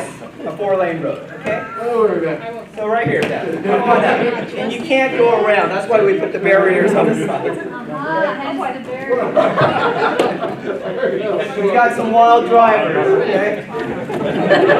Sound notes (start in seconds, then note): 9.2 laughter; 14.0 laughter